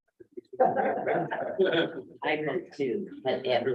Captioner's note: laughter